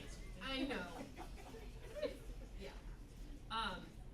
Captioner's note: more "teeth" whisper chanting